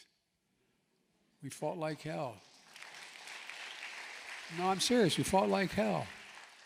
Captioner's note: applause